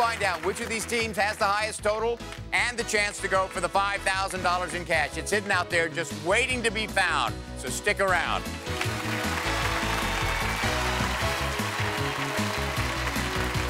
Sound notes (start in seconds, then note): 8.6 applause; 10.9 upbeat music